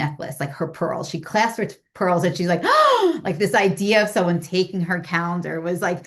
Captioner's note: imitates a gasp